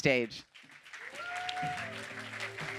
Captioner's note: cheers; applause